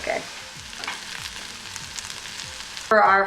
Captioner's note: sizzling